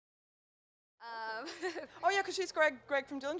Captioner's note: laughs